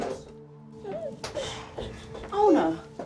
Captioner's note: shushing